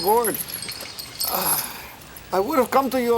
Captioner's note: Crecencio sighs